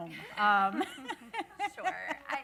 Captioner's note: panelists laughing